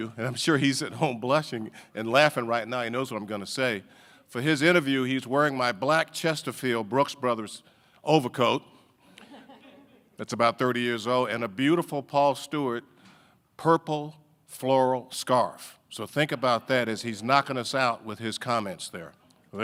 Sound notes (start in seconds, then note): 9.2 audience laughing